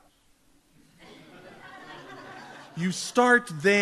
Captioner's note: audience laughs